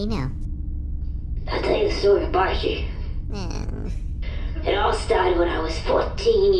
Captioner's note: Beano makes a disappointed noise